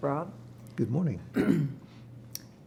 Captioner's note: clears throat